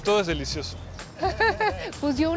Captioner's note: laugh